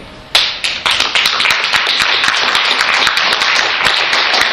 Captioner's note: clapping